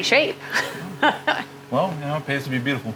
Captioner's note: laughing